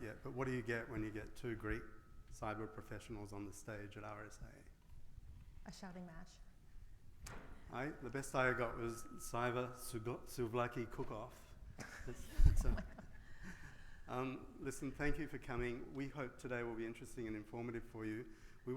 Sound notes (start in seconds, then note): 11.8 all laughs